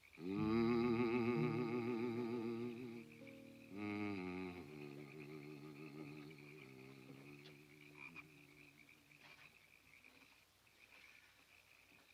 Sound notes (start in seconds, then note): 0.2 Mose humming; 6.7 frogs croaking